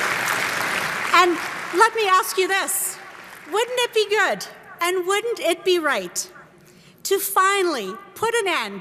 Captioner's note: applause